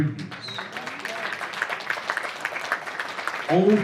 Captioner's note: applause